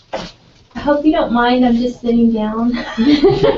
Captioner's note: laugh